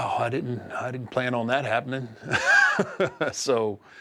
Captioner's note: laugh